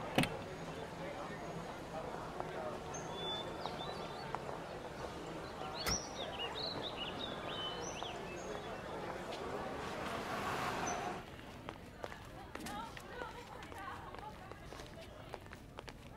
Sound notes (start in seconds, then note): 0.0 car door opens; 5.8 car door closes